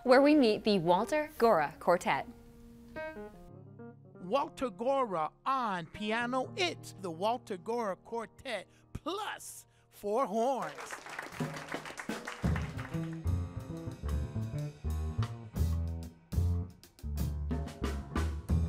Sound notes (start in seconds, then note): 2.3 jazz music; 10.4 audience applauds; 12.4 jazz music